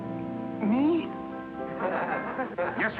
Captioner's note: class laughs